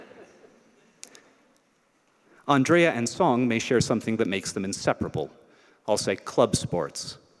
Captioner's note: laughter